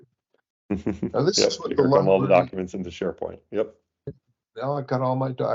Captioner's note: laughs